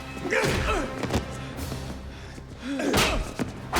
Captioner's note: Dalton grunts; blows thudding; Dalton and Gammon grunting; punches thudding